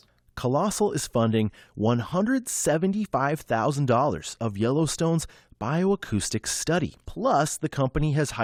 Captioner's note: voice-over